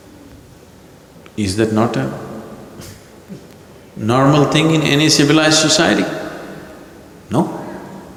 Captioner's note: laughs